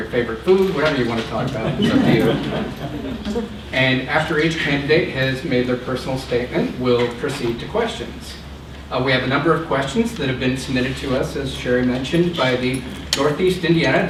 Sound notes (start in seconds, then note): 3.5 laughter